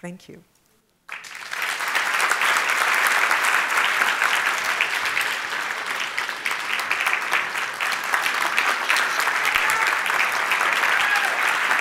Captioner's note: applause